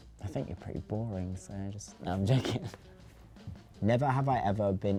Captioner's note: laughs